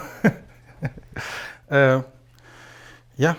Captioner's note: laughs